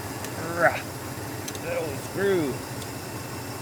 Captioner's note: grunts